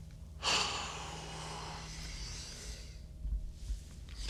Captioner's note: Zach exhales heavily